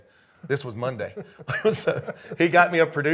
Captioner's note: laughing